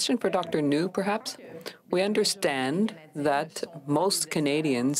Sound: speaking french

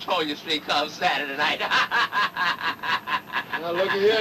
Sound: laughing

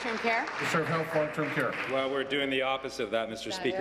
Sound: applause

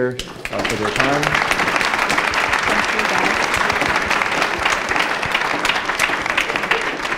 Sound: applause

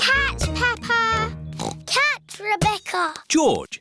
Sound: squeaks; oinks

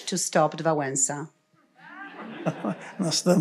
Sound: laughter; foreign language

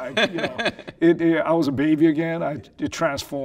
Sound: laughing

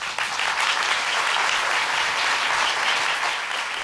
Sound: audience clapping

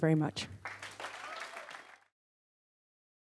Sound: applause

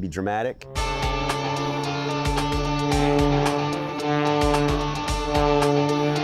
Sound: energetic music; airplane humming

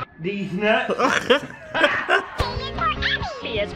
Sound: chuckles

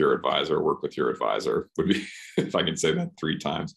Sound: chuckles

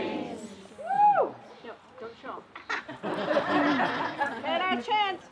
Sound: laughter

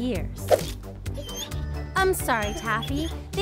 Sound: Taffy cries

